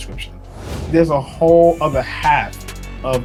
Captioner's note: whooshing